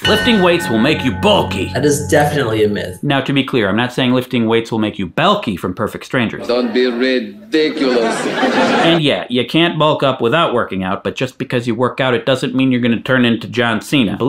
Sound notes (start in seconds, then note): 7.6 audience laughing